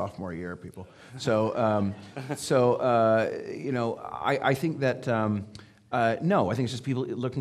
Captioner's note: audience laughing